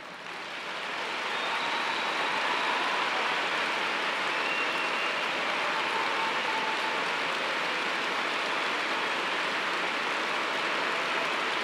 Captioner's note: applause